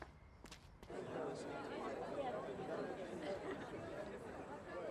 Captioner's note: people chattering